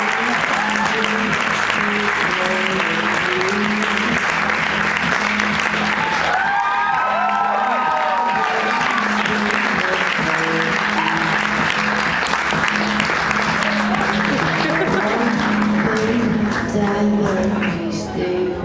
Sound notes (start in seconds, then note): 5.5 cheering